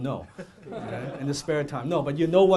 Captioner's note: audience laughing